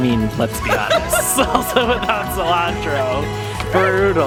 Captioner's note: laughter